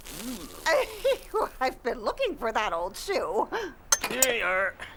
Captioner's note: chuckles